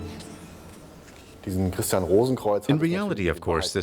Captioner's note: speaking in German